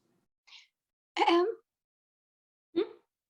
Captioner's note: clearing throat